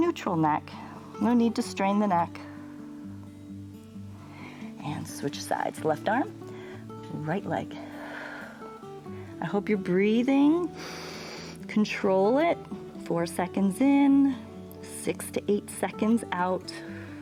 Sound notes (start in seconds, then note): 8.5 exhales; 10.7 inhales